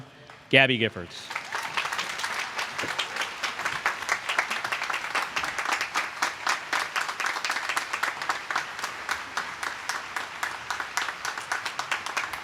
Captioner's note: applause